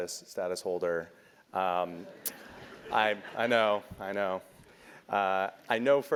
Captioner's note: laugh